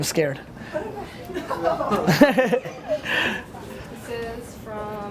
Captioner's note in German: Lacht